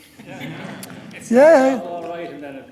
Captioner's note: audience murmurs